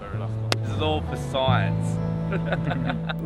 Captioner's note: laughs